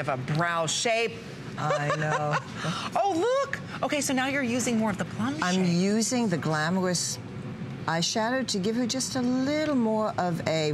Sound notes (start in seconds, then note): 1.6 laughter